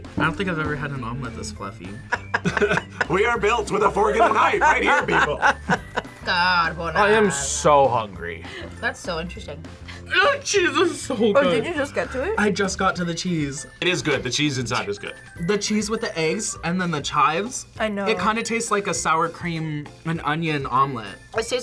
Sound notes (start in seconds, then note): 4.2 laughs